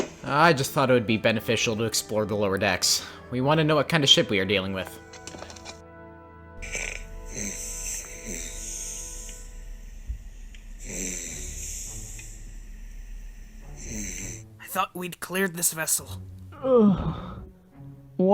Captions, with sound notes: I thought it would be beneficial to explore the lower decks. We want to know what kind of ship we are dealing with.. (Snoring) I thought we'd cleared this vessel (Groaning)